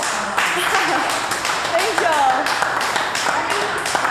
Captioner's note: attendees clapping